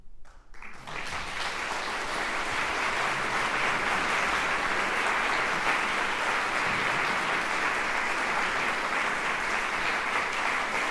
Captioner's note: applause